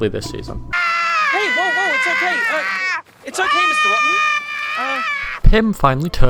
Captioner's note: Rotten Screams